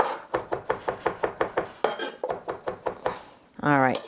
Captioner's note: knife thumping